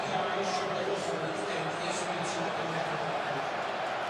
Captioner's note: pa announcement